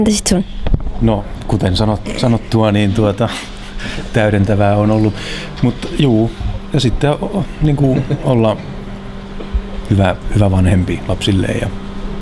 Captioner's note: laughs